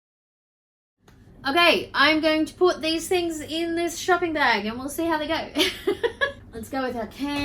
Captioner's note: laughs